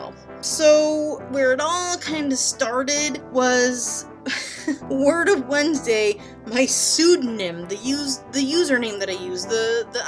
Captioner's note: laughs